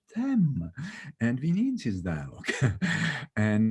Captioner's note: chuckles